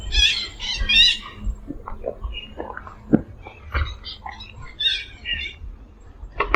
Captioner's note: birds chirp